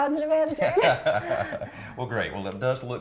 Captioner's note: laughing